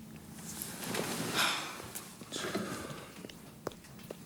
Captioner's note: Jodie sighs